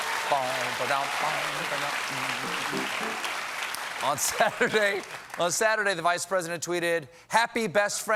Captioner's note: cheers and applause